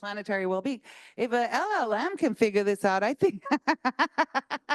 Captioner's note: laughs